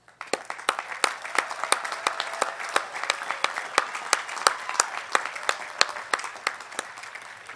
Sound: applause

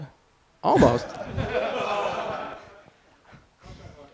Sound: laughter

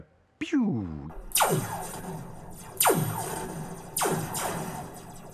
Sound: sound of laser gun firing

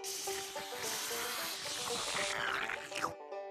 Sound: slurping

